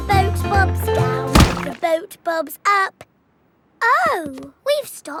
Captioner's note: thuds